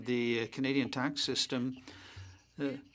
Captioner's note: speaking French